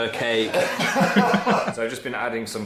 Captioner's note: Phil laughs; Young Dan laughs